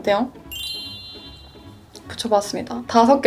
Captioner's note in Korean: 꿈뻑 꿈뻑